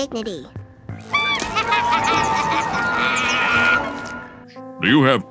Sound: laughter

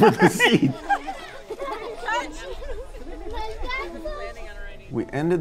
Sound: laughing

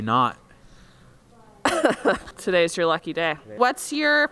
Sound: cough

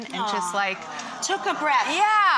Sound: sighs; audience sighs

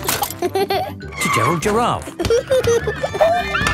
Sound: giggling and squeaking; laughing; laughter

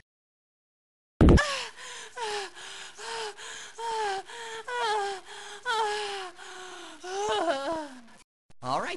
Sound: Tails hyperventilating

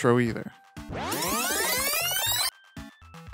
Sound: rewind effect

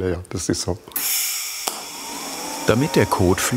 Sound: hissing, whirring

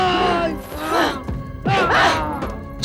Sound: groans

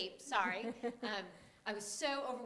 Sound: chuckling

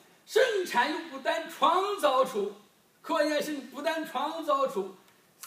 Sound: speaking foreign language

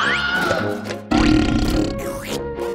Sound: burping sound

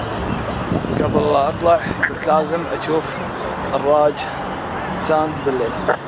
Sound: speaking foreign language

